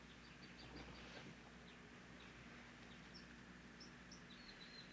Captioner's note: birds singing